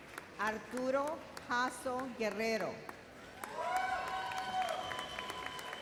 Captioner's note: audience cheers